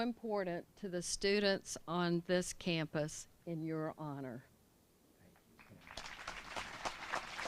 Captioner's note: applause